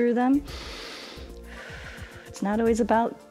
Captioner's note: inhales and exhales